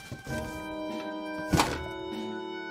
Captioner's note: thump